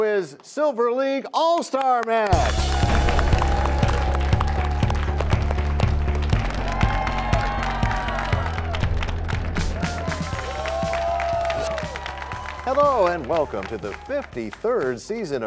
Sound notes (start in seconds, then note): 2.4 crashing sound; 8.2 cheers and applause